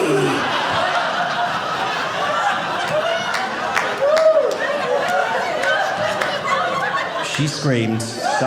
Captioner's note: audience laughing